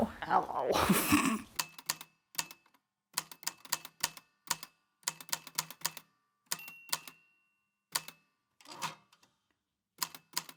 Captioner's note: snorting laughter; the typewriter clicks and clacks away, with dings here and there